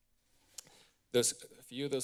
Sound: clicks tongue

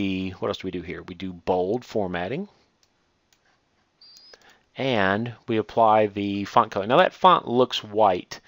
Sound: click

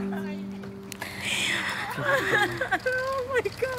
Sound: laughter

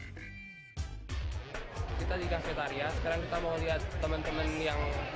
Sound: non-english speech

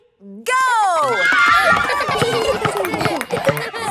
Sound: kids screaming; laughter

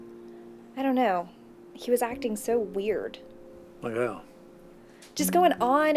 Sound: none

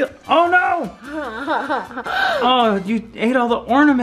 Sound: laughing

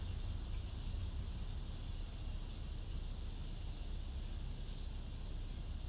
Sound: bathroom shower sounds

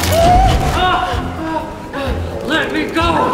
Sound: Steve shouts

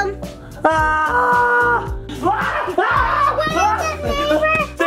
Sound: shrieking

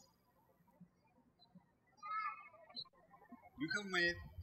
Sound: birds chirping

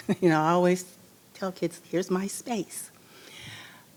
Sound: laughs

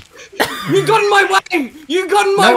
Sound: laughs

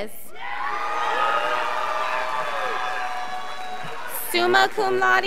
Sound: scholars applauding

